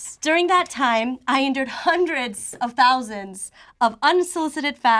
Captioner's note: none